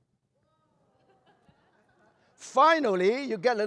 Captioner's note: laughter